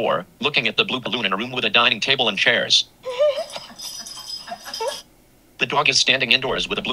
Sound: on the video: laughing

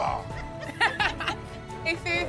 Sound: laughter

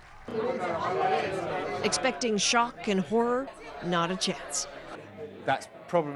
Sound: indistinct chatter

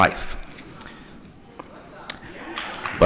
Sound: applause

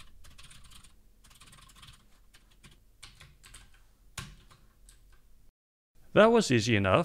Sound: typing sounds

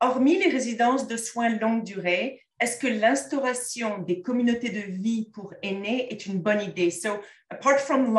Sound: content in French

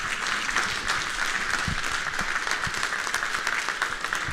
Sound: audience applauds

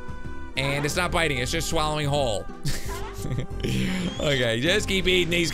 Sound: laughs

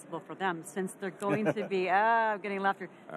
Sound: laughing

